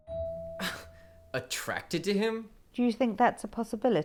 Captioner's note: Draco scoffs